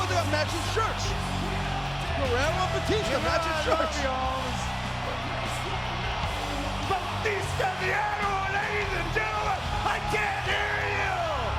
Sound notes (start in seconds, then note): 5.5 crowd cheering continues; 5.5 upbeat rock music continues